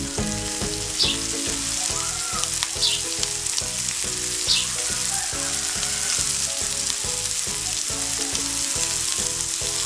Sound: sizzling

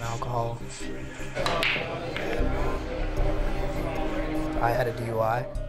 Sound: patrons chattering; balls clacking

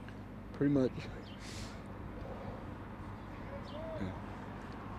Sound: inhales sharply

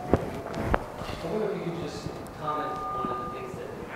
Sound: voiceover

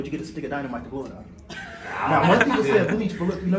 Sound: laughing

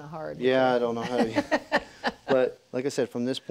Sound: laughs

